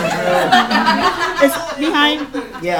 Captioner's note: laughter